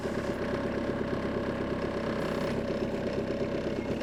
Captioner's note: engine rumbles